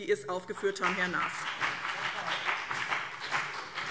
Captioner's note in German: Beifall BÜNDNIS 90/DIE GRÜNEN